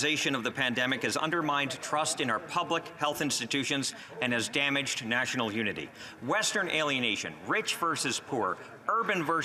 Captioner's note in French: voix de l'interprète